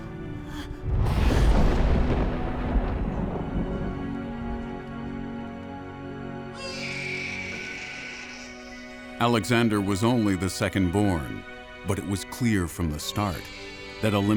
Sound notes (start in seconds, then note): 0.3 Olympias gasps; 6.5 baby crying